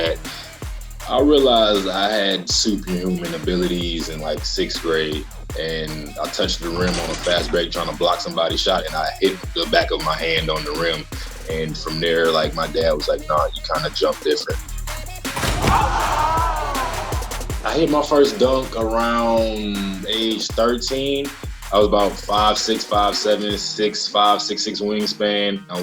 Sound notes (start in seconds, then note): 15.0 rap music; 15.3 crowd cheering